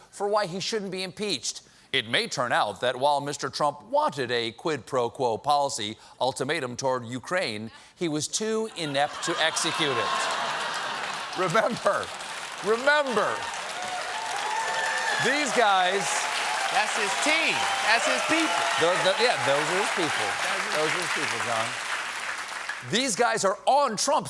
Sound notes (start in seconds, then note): 9.1 laughter; 12.1 applause